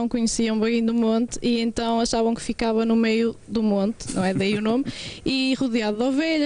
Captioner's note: laughter